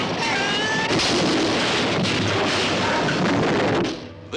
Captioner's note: crashing